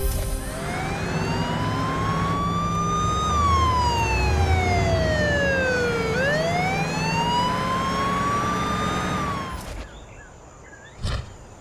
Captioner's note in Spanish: Sirenas